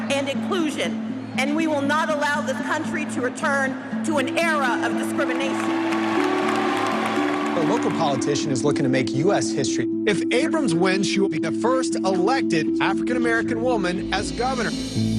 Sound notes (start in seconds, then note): 5.0 cheers and applause